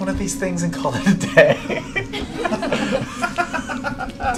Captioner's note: laughter